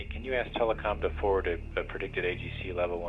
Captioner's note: rocket engine roaring